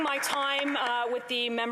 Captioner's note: some Applause